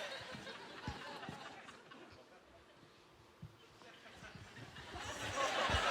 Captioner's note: laughing